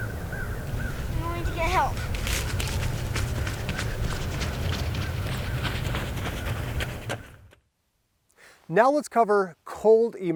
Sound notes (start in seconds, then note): 1.0 kids talking